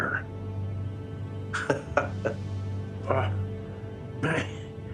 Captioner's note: laughs